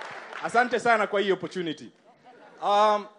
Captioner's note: applause